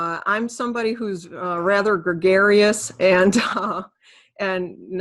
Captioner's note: chuckles